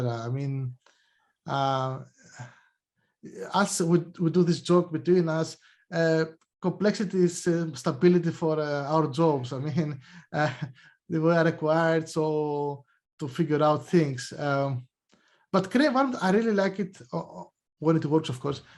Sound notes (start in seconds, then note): 9.6 chuckles